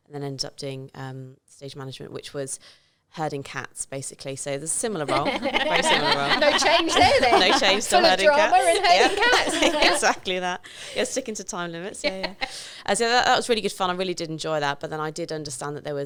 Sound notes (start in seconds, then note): 5.0 laughing